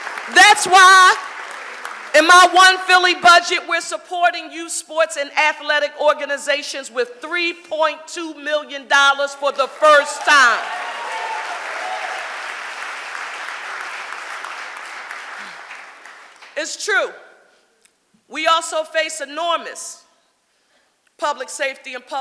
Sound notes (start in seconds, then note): 9.7 audience applauding